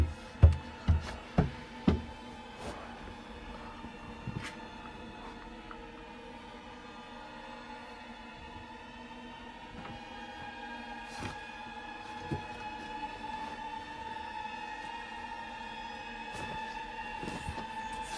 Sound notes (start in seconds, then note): 0.0 constant Knocking